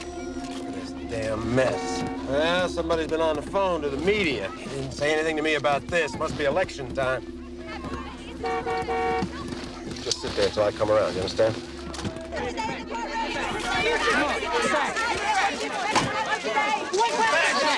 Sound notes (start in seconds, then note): 8.1 car honks; 11.9 clamoring